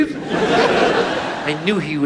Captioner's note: audience laughs